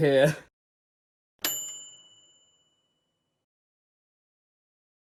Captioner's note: bell dinging